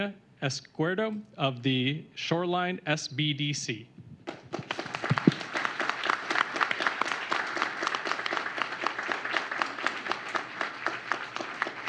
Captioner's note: applause